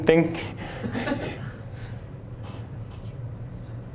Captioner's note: laughter